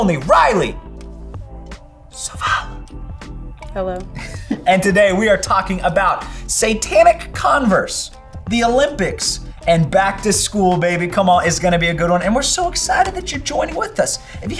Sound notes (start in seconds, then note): 4.0 laughing